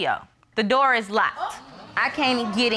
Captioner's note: audience exclaims